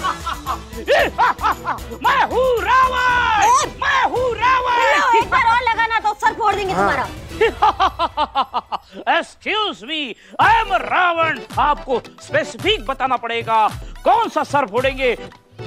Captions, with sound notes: [loud laughter] I am Ravan! I am Ravan! If I get hit one more time, I'll crack your skull. [evil laughter] Excuse me. I am Ravan. You have to be specific, which skull will you crack?